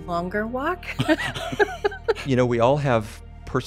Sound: laughs

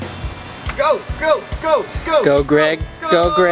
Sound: chanting 'go'

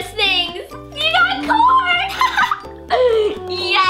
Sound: laughs

